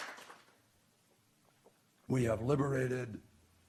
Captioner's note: applause